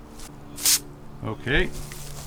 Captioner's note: sprays